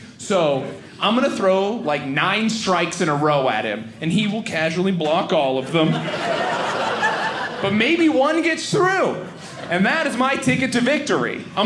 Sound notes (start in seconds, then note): 5.6 audience laughing